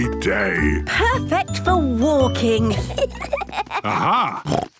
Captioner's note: children giggling; snorts